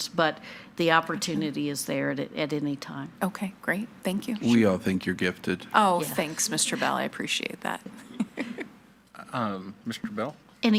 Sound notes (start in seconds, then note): 8.0 laughs